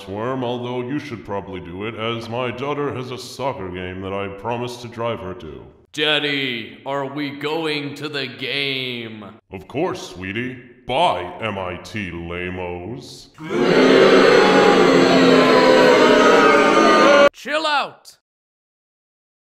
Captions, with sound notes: Although you should probably do it. My daughter has a soccer game I must drive her to. Daddy, are we going to the game? Of course sweetie. Bye MIT lamoes. *crowd booing* Chill out!